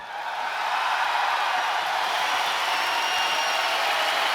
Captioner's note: cheering and applause